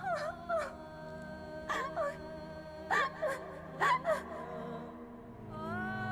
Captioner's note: sobbing